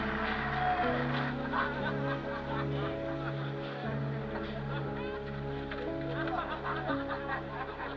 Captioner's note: talking in background, laughing